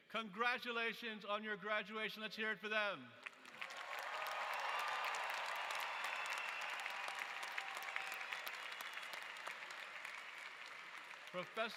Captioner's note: applause